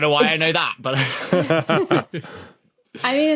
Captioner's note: guests chuckling